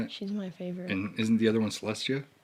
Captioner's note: none